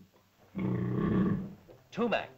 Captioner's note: dinosaur growls